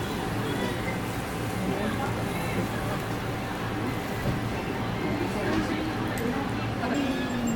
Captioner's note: sizzle sizzle